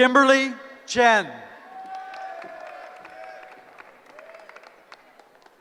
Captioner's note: cheering